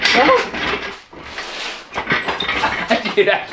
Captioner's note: laughing